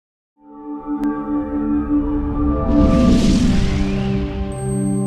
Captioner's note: whooshing, metallic tinkling